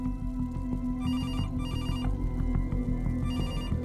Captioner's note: Phone ringing